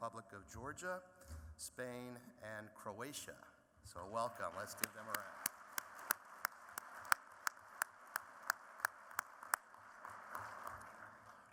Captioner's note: applause